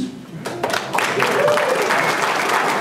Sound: applause

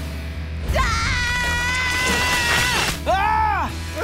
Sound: screaming

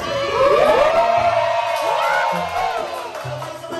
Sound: cheering

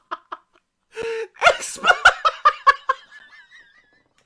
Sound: interrupting him with laughter; still laughing

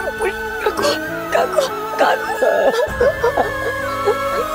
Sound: crying inconsolably; sad music playing

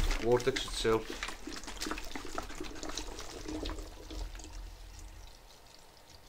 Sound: water gurgling

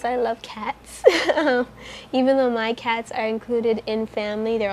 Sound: laughs

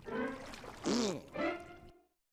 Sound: jeers

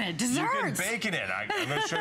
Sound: laughter

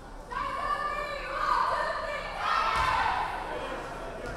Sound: players chanting

